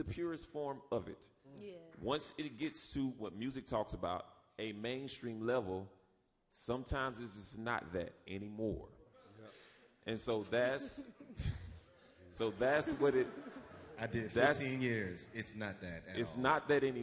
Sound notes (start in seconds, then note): 12.3 laughs